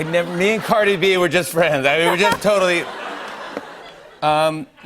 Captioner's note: laughter